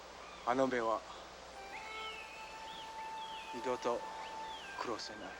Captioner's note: speaking foreign language